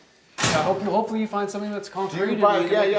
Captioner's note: locker door closes